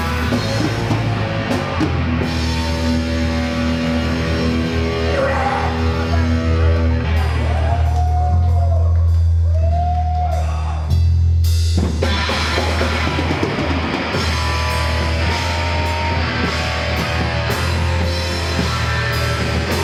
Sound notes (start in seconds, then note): 8.1 cheering; 11.4 slow metal music